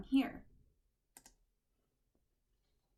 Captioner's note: click